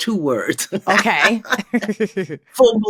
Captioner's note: laughter